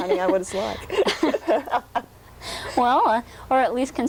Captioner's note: laughs